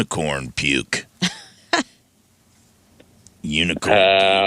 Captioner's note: laughs